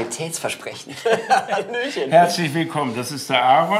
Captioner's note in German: lachend